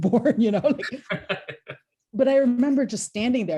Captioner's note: laughter